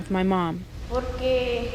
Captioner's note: speaking foreign language